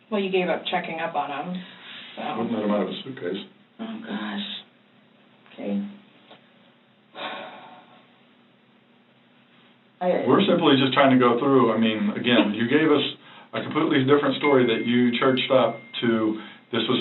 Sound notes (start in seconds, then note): 7.2 someone sighs